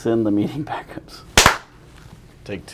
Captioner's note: clap